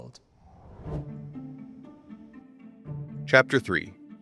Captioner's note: graphics whooshing